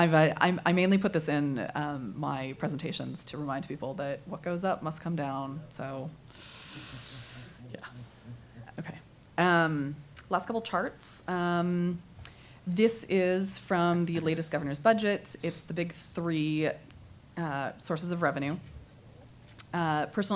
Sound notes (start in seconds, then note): none